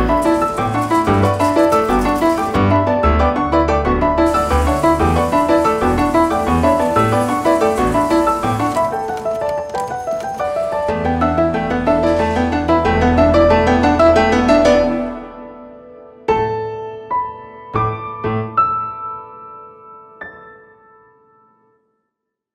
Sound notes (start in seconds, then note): 0.0 conveyor belt clicking; 0.0 conveyor belt clattering; 4.2 conveyor belt whirring; 8.6 conveyor belt clicking; 16.2 calm music